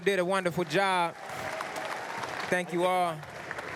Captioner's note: applause